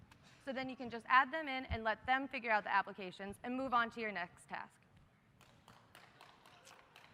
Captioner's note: applause